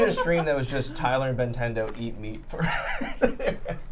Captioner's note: laughs